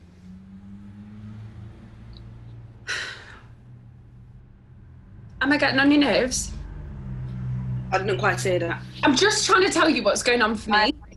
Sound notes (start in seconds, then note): 0.6 traffic rumbles outside; 2.8 maybe sighs